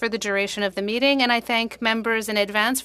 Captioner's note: speaking French